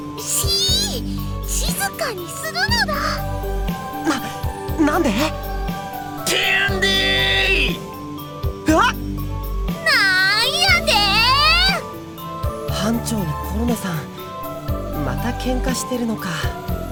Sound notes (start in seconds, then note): 0.8 whisper; 8.8 surprised; 13.0 whisper